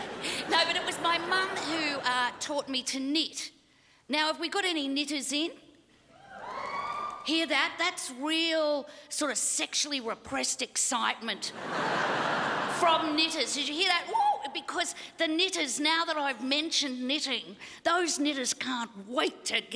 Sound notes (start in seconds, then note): 6.2 whoop from crowd